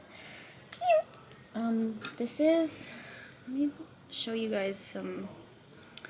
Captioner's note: squeaking